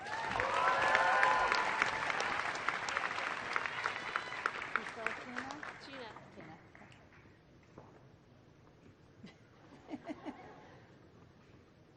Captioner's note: applause